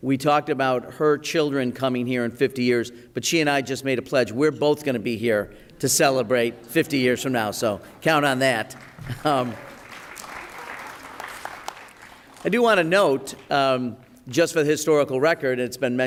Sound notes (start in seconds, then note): 8.3 applause